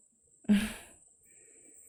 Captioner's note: chuckles